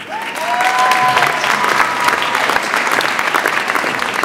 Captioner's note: audience applauds